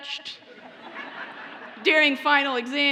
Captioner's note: audience laughs